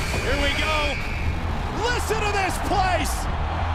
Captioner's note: crowd cheering